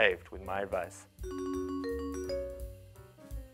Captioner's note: phone chimes